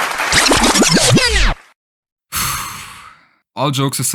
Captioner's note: sigh